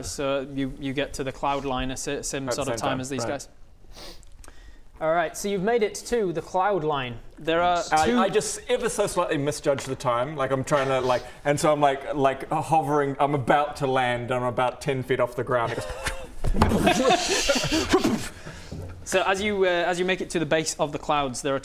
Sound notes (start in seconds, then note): 16.0 pwfft; 16.5 boomf!